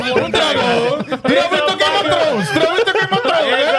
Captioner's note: speaking In Foreign Language